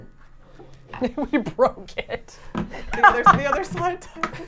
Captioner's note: laughing